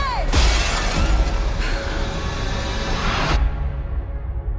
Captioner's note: woman yelling